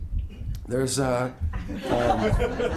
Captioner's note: group laughing